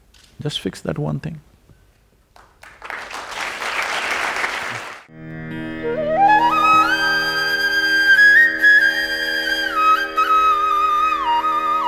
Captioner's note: applause